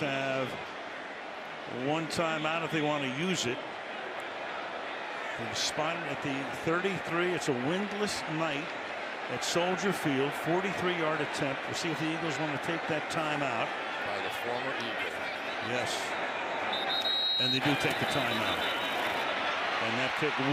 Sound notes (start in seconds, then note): 16.7 whistle